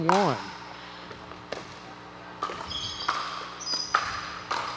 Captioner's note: ball bouncing